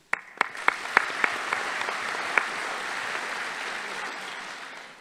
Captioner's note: audience applauding